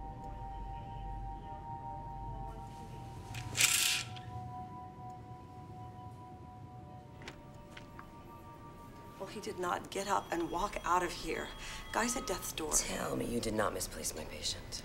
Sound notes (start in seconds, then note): 3.3 curtain rattles; 9.8 telephone rings